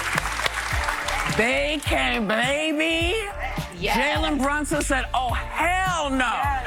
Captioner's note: applause